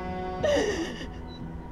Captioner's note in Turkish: Ağlama sesleri